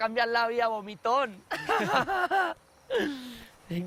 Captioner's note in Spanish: Risas